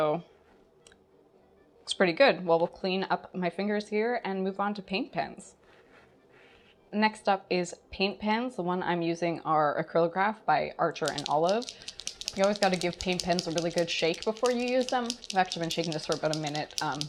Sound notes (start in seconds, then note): 11.0 pen shaking noises